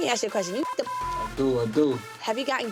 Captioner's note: beep